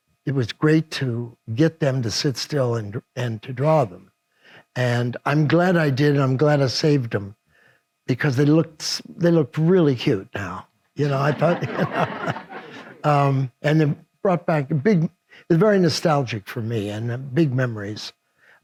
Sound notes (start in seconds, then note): 11.0 audience laughs